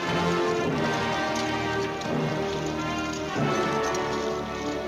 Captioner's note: yelling, grandiose music